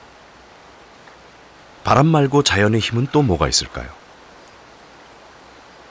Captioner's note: wind